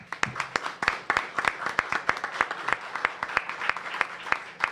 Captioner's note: applause